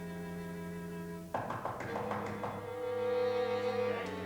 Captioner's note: knocking on door